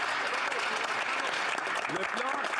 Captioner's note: some Applause